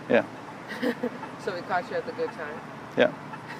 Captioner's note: laughing